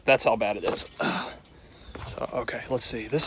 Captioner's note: grunting